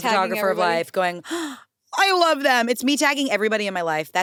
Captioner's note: gasps